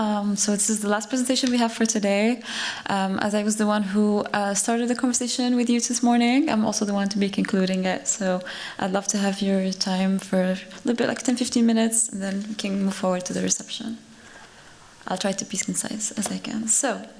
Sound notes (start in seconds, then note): none